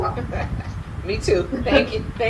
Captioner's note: laughs